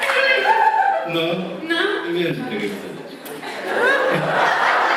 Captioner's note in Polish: Aplauz